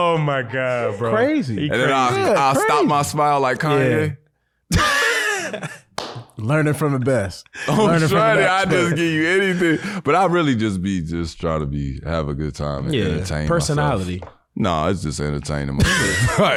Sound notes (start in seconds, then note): 4.7 laughing